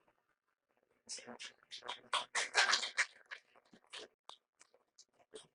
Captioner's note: applause